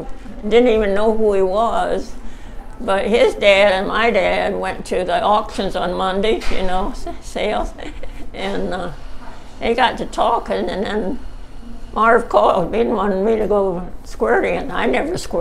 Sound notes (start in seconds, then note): 6.9 chuckles